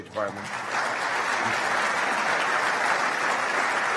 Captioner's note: applause